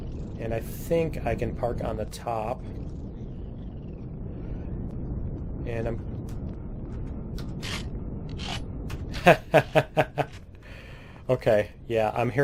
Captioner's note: weapons reloading; turret turning; laughs